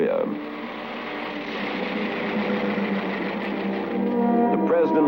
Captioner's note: automobile sounds